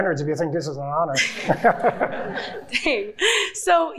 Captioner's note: everyone chuckling